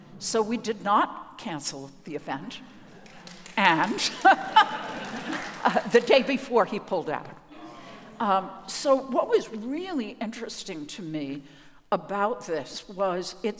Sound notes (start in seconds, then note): 3.0 audience applauding